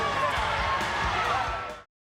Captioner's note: crowd roaring